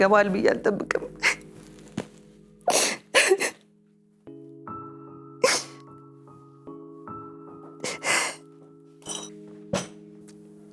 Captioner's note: crying